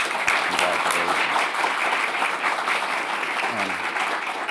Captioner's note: audience applauding